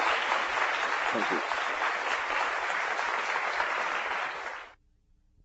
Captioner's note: class applauds